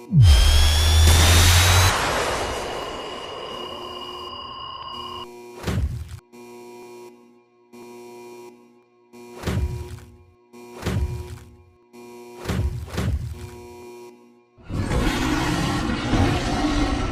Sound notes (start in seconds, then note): 0.0 laser Powering Up